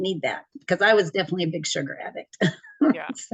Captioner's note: laughs